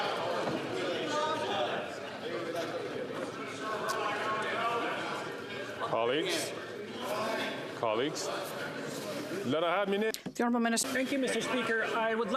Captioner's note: chatter; some Applause